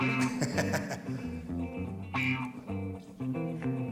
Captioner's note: laughing